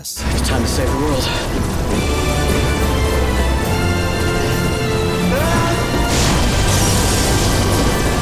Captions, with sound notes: Time to save the world. [groaning]